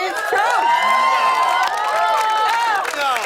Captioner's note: cheers and applause